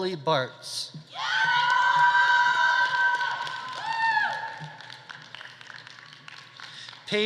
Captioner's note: audience cheering; audience applauding